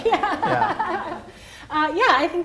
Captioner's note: laughs